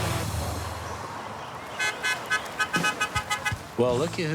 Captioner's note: car horn honking